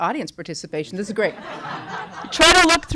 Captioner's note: laughter